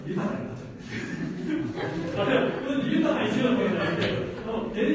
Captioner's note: laughs